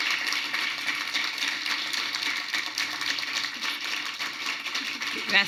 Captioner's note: applause